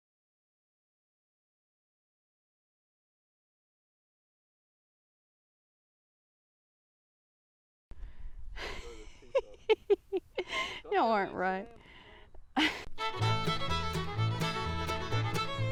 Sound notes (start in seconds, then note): 8.6 woman laughing; 13.0 upbeat music